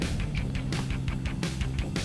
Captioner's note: chuckling